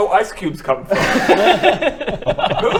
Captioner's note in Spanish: risas